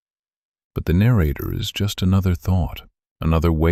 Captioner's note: low voice